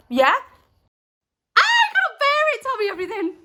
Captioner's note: screams